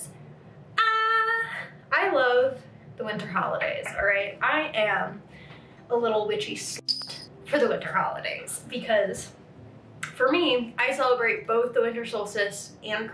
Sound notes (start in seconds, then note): 6.8 beep